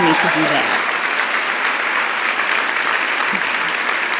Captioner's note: applause